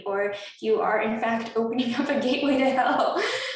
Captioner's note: laughs